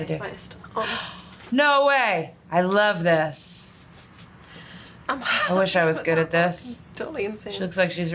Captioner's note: gasps